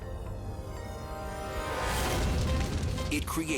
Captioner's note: dramatic music; fire roaring